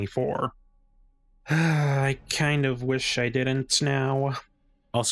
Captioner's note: sigh